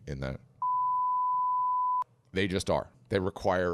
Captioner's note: bleeping sound